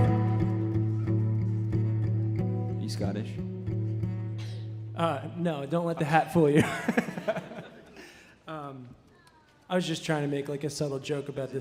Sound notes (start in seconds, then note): 0.0 gentle music; 6.4 laughing